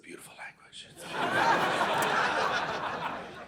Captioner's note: audience laughing